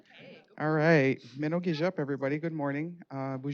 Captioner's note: speaking Native langauge